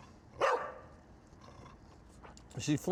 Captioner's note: barking